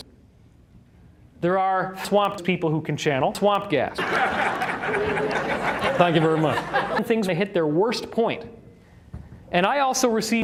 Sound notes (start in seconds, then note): 4.0 raucous laughter from audience